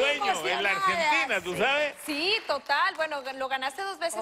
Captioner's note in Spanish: aplausos